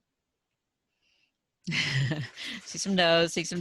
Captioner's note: laughs